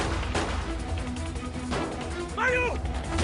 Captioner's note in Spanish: Disparos